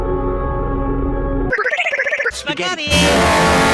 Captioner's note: stutters